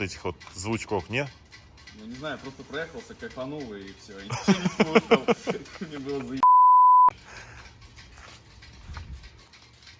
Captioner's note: laugh